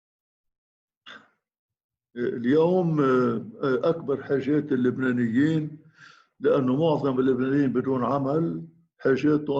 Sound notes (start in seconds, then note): 2.4 speaking in foreign language